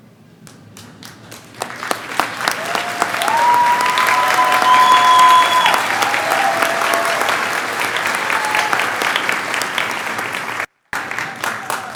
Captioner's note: clapping